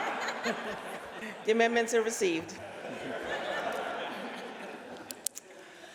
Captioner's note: laughter